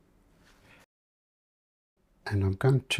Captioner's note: silence